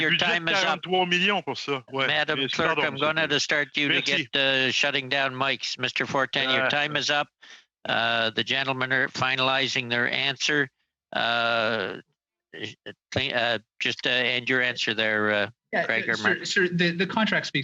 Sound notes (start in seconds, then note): 4.5 speaking French